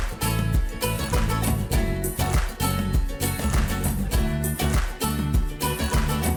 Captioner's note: upbeat swing music; audience rhythmically claps